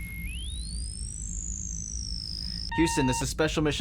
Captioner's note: computer whirs and beeps